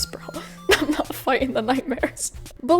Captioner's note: laughs